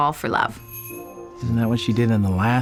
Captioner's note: doorbell jingles